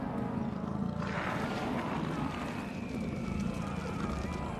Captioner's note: groaning